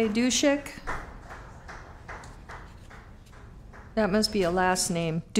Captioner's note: applause